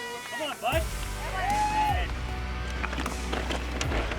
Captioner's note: all cheer